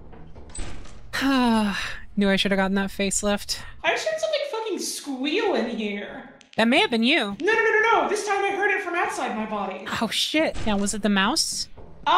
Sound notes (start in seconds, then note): 1.2 sighs